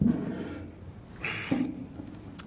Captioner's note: sighs